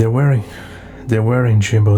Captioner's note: BB sighs